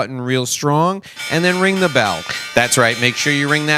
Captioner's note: bell ringing